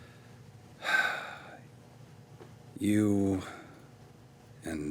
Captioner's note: sighs